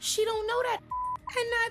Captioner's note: beep